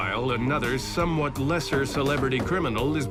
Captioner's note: knocking